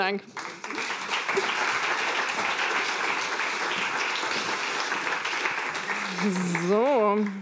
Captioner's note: applause